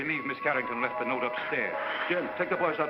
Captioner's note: blowing sound